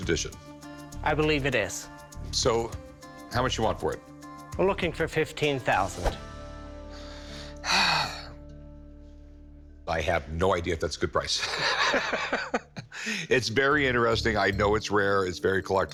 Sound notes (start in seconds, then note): 6.9 sighs heavily; 11.4 laughs